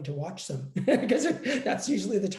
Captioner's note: laughs